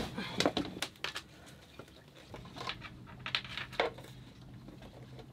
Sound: grunting softly

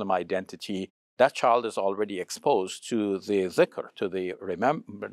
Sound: speaks Arabic

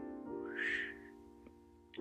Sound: whooshing

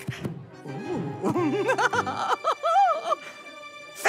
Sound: laughs

